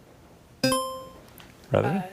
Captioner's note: buzzer chiming